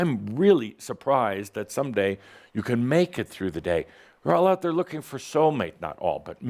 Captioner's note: none